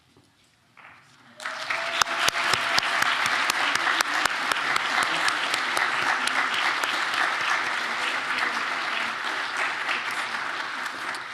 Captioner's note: applause